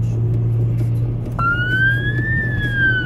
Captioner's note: siren starts